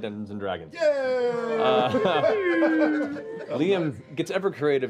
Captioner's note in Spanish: risas